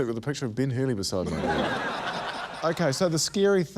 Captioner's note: laughter